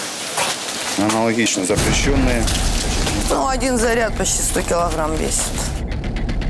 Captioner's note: rockets